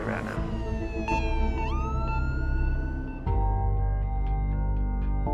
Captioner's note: sirens